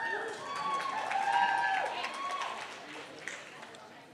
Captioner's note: cheering